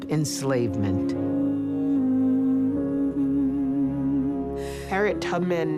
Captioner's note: woman humming